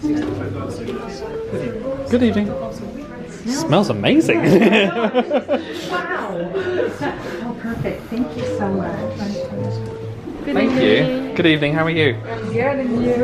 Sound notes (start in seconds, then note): 0.1 indistinct background chatter; 4.4 laughs